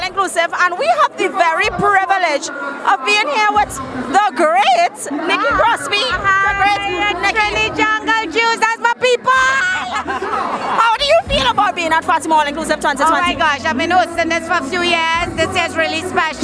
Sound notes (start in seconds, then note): 9.4 laughter